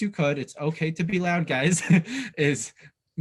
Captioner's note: chuckles